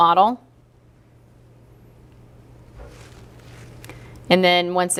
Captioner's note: pause